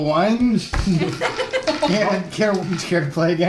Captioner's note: laughter